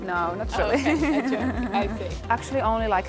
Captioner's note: laughing